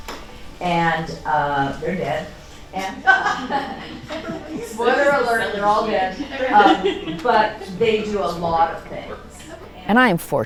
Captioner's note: laughs